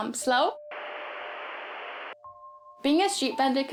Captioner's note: television distortion noise